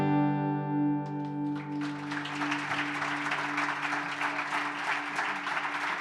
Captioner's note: audience applauding